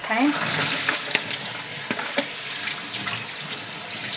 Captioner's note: water running